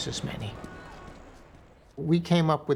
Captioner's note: car honks